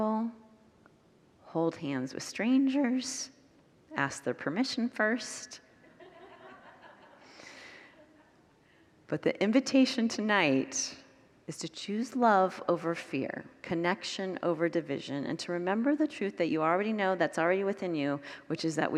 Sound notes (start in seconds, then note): 5.9 congregants laugh